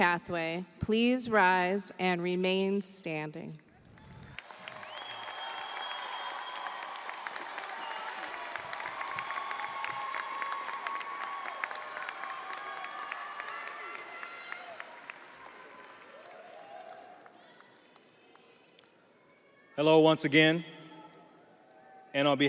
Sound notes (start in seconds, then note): 9.6 audience applauding; 9.6 audience cheering